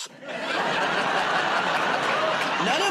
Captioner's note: laughter